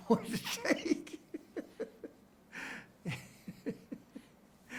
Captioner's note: chuckles